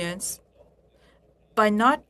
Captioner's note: speaking French